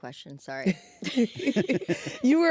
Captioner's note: all chuckling